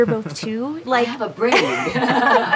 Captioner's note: laughs